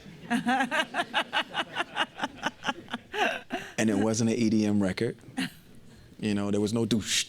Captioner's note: laughter